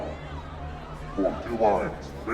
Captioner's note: people shouting